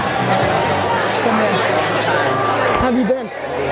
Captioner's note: crowds chatting